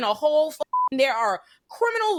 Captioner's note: beep